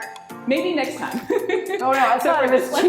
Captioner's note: laughing